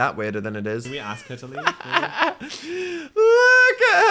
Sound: laughs

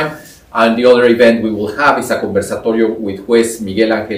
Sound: spanish

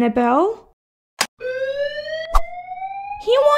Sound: click!; fire Alarm

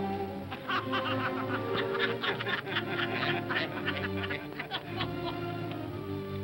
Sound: all laugh

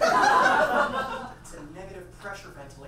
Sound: audience laughs

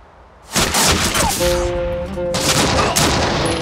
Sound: gunshots; emotional music

